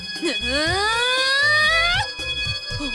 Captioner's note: powering up